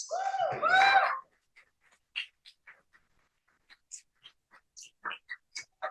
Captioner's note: cheering